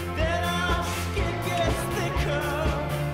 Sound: exhales

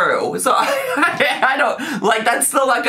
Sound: laughs

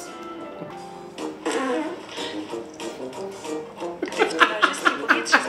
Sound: foreign language; farts; laughs

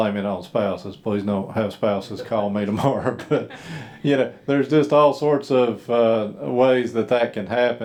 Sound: laughing

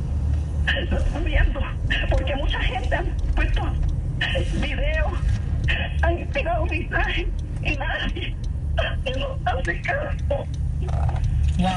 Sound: sobbing, inaudible

